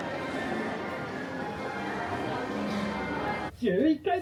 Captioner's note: crowd murmuring; announcer speaking Japanese